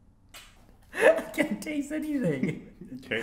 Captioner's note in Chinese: 笑瘋